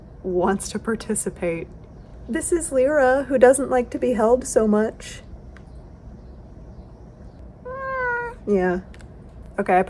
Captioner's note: annoyed cat noise